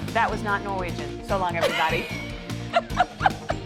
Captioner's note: laughter